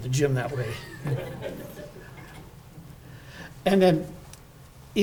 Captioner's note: audience laughing